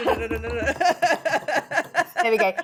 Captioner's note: chuckles